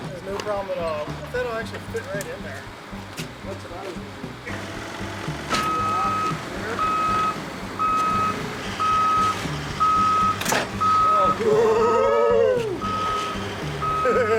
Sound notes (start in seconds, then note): 7.0 forklift beeping; 10.7 men gasping; 10.7 tailgate clanking